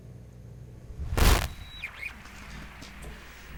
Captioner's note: radio static